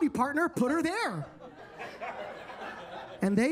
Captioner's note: attendees laughing